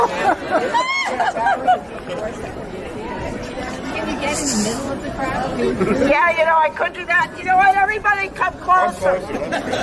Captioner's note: laughter